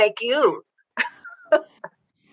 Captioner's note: laughs